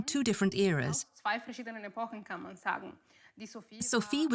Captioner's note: speaks in foreign language